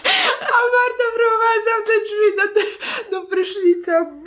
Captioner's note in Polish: śmiech